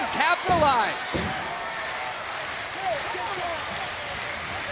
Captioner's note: audience clapping